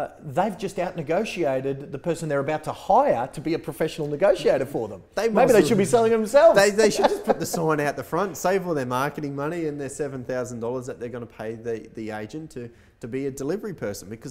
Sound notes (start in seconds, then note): 6.4 laughs